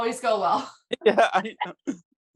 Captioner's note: laughs